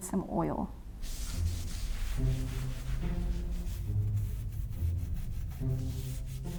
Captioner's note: gentle music; washcloth scratching